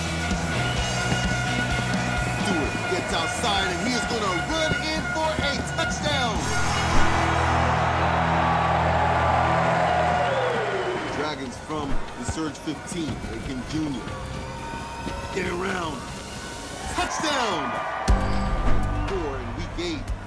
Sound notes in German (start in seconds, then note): 0.2 Stadionhupen; 6.2 Jubel; 14.5 Ansteigende Klänge; 17.2 Jubel; 17.6 Gespannte Klänge